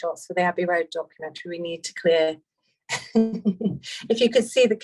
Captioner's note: laughs